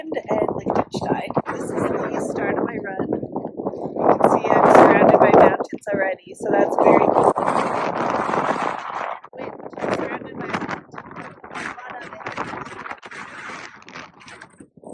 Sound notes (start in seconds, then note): 8.0 wind picks up